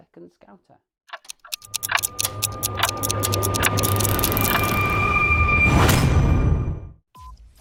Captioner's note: clock ticking